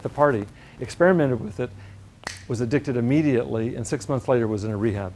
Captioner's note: snap